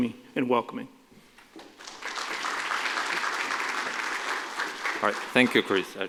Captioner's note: applause